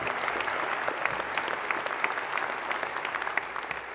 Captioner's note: audience applause